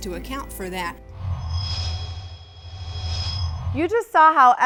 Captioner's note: sound Effects